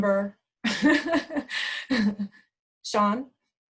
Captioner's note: laughing